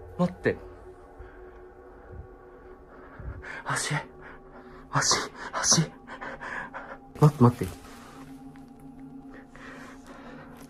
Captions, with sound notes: hang on. [Laughing] Feet, [heavy breathing] Feet, feet. Wait, hang on.